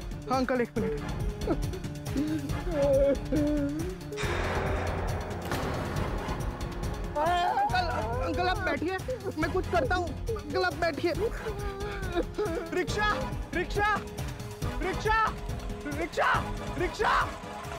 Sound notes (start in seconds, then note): 7.2 sobbing